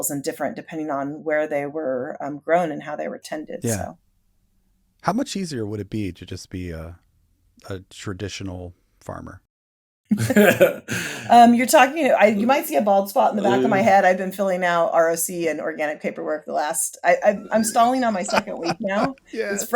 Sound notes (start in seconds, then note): 10.1 chuckle; 17.2 laughs